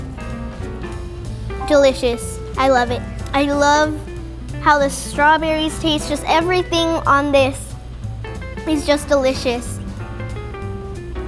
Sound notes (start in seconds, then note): none